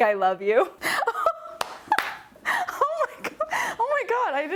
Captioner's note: laughing